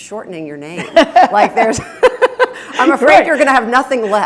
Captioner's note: laughing